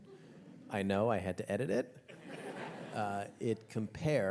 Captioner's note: audience chuckles